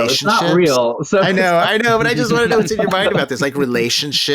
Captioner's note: laughing